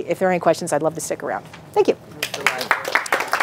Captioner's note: clapping